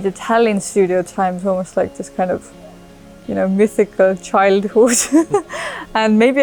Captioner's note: laughs